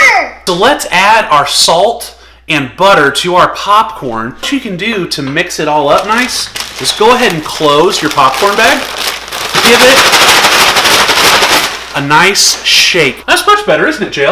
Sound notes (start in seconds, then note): 10.1 sounds of popcorn shaking in a bag